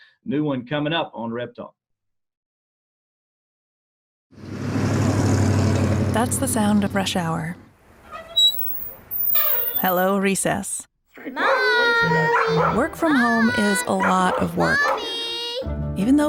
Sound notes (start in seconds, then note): 4.4 engine rumbles; 8.0 squeak; 11.3 barking